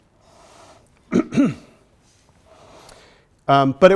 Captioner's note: clears throat